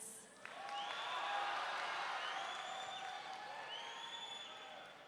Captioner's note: audience cheering